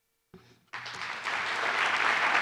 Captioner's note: applause